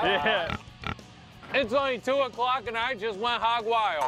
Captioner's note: pig grunting